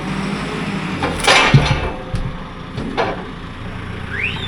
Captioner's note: wood thudding